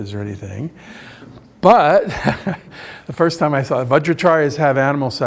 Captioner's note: laughs